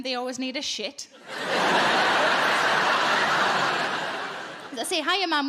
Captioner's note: audience laughing